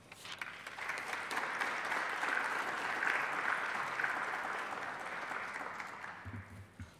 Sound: applause

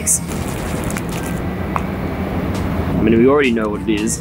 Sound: plastic crinkling

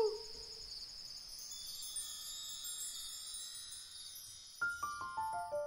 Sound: chimes tinkling; gentle music

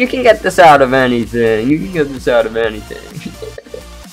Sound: laughs

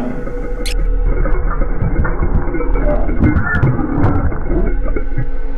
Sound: static hissing

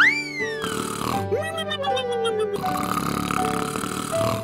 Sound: loud snoring

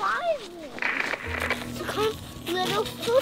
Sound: static crackles

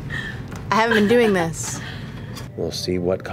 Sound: laughter

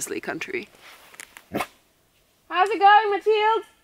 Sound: Vilk chuffing

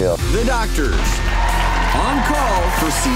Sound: cheering

